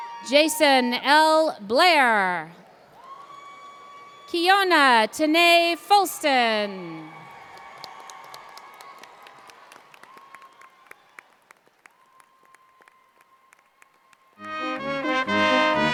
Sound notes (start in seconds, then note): 7.3 cheers & Applause